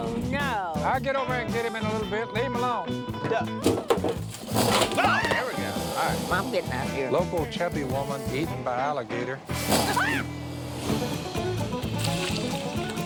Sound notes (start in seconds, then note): 3.6 clattering; 4.8 growling; 4.9 screams; 9.0 growling; 9.8 screams